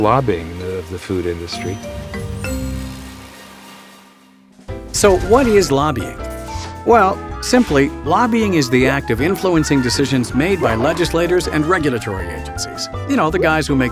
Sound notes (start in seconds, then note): 5.4 voiceover